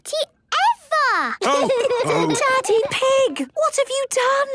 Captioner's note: laughter and snorting; laughter